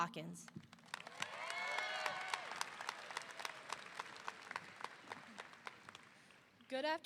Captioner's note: audience applauding; audience cheering